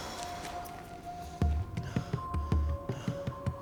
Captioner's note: Tom sighs; snarls softly